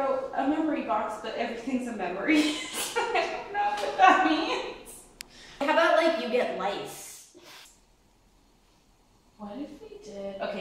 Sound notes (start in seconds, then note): 2.3 laughs